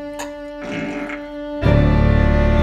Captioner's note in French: Prrrrouuuttt